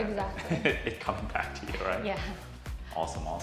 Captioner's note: laughing